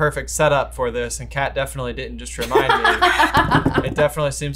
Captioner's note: laughs